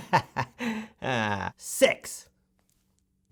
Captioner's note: laughs